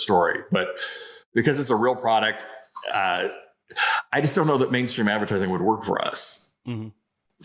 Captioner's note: sighs